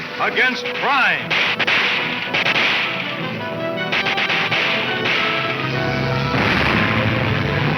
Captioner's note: dramatic orchestra music; guns firing